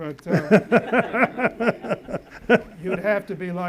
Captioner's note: audience laughs